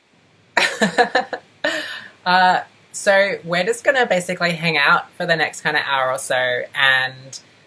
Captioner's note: laughs